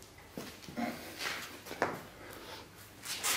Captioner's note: stressed sounds